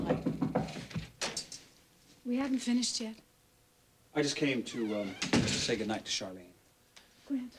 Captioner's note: knock on door